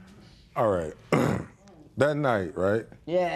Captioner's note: clears throat